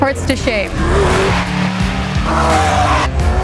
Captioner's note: engines rumbling